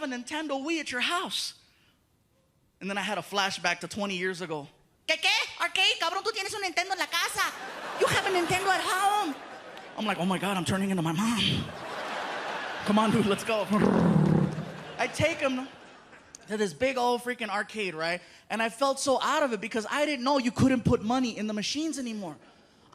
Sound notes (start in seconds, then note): 4.6 in shrill voice; 13.3 imitates engine